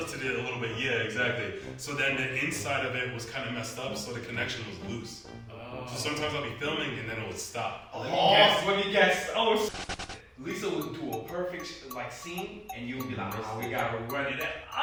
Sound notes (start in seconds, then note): 7.6 all groan; 9.7 electronic rattling